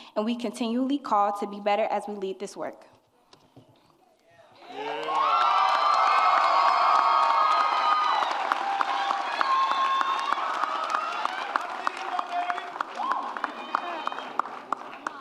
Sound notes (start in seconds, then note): 4.8 applause and cheering